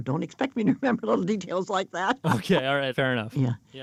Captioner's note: laughs